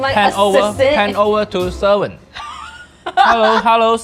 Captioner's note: chuckling